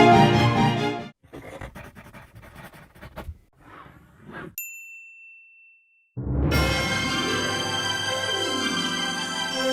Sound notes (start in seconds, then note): 1.3 pen scratching; 4.6 ding; 6.2 fantastical music